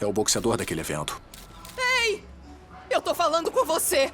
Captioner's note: camera shutter click